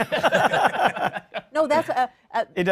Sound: laughter

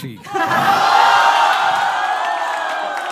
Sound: crowd goes wild

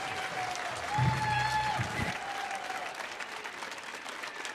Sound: audience cheering

